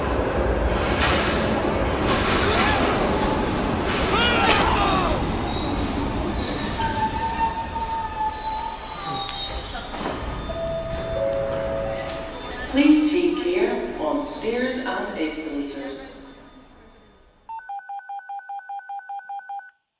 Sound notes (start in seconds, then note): 3.9 scream; 5.0 train Screeching; 10.1 doors Opening; 17.7 phone Dialling